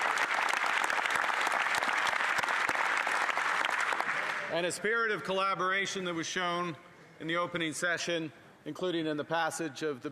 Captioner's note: some Applause